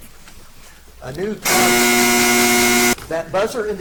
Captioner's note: buzzer buzzes